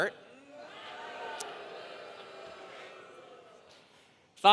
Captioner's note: audience booing